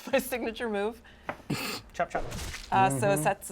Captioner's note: snorts